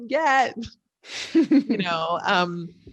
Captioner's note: chuckling